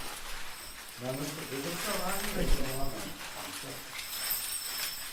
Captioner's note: bells ringing